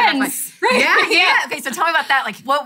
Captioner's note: laughing